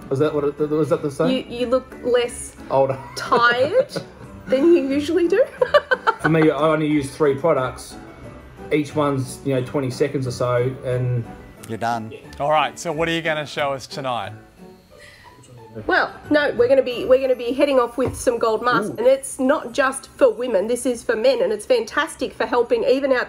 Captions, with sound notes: -Was that the saying? -You look less- -Older. [laughs] -tired than you usually do. [laughs] For me, I only use three products. Each one's 20 seconds or so, and-- -You're done. -Yes. All right. What are you going to show us tonight? Well, no, we're going to be hitting off with some gold mask. It's not just for women, this is for men, and it's fantastic for helping even out